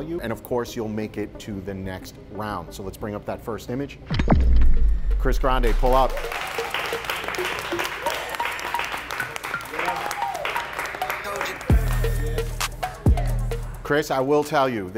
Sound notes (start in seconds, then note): 6.7 competitors applaud; 8.2 upbeat music